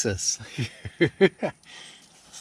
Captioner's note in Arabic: ضحكة مكتومة